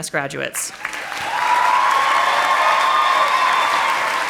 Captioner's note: audience applauding